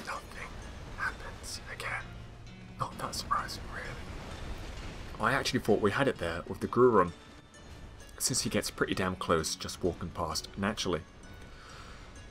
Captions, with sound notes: [whispering] Nothing happens, again. [whispering] Not that surprisingly really. I actually thought we had it there with the Ghru room. Since he gets pretty damn close just walking past naturally.